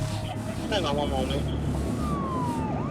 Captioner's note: police radio chatter